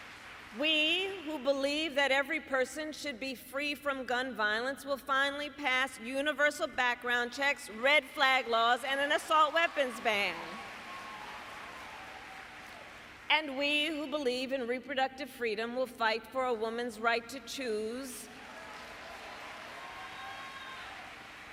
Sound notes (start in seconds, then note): 0.0 applause; 11.2 applause; 18.3 applause